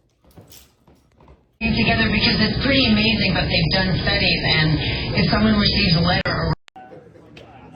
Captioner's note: TV plays in background; students chattering